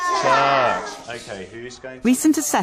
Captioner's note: shout together